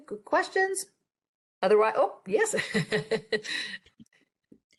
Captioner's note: laughs